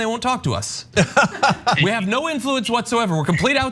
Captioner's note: laugh